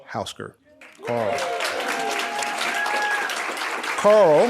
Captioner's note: audience cheering